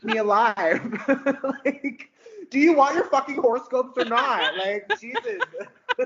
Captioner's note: laughing; laughing